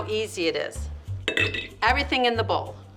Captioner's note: clanking